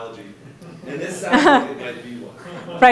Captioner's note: audience laughing